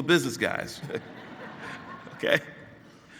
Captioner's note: laughing